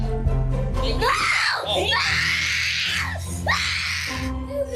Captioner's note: screaming children